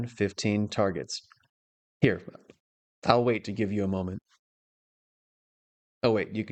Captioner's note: short pause